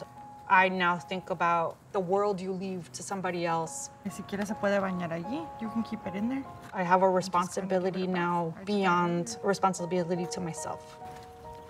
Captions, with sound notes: I now think about the world you leave to somebody else. [speaking Spanish] You can keep it in there. I have a responsibility now beyond responsibility to myself.